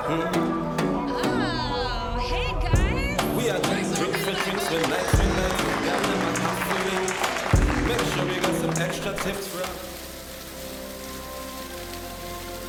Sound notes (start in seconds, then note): 3.4 all applauding